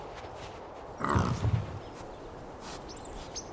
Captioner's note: boar snorts